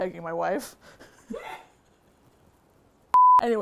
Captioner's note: laughs; laughs off camera